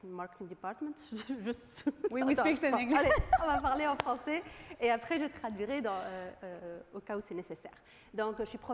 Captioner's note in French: rires